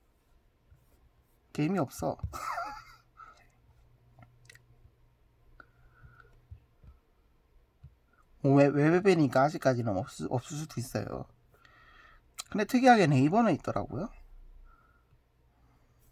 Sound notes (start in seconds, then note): 2.3 laughs